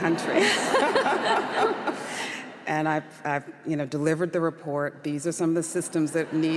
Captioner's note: audience laughter